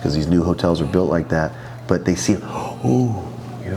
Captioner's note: gasps